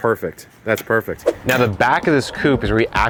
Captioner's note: whooshing